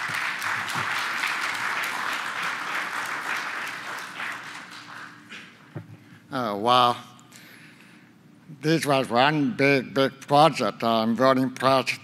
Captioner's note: applause